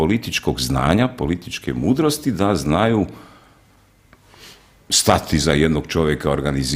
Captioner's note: sigh